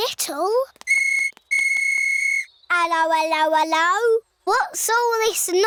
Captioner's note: blows whistle